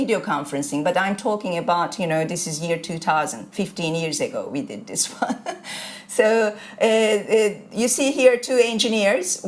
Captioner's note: chuckles